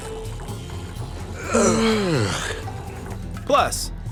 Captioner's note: yawning